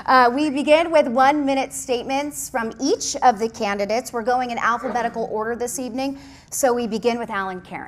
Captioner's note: laughter